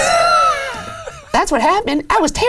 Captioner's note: laughs